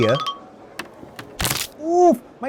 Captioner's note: bone breaking sounds